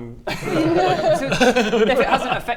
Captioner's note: mischievous giggle